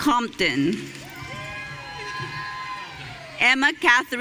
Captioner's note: audience cheering